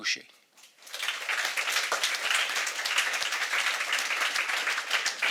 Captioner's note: audience applauding